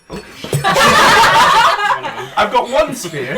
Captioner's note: laughter